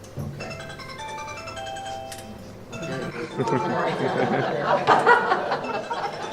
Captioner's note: phone rings